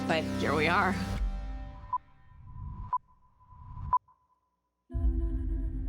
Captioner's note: beeping; singing